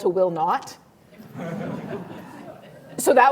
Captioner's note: laughter